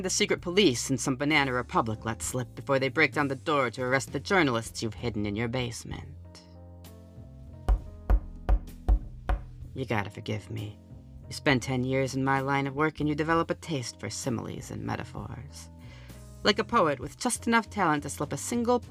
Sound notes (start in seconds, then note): 7.6 knocking